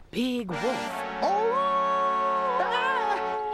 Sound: cries out; wolf howls

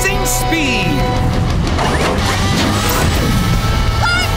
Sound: turbo turning on

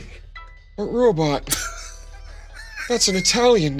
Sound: laughing

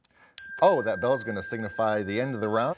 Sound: bell chimes

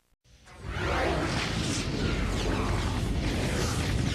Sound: dramatic sounds continuing

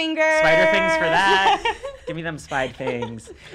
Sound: laughing

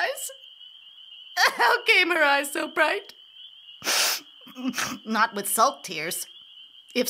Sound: sniff

